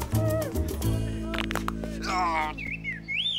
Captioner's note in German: Männer keuchend; Gelenke knacken; Vögel zwitschern; stöhnt vor Qual